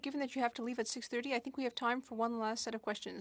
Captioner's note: speaking FRENCH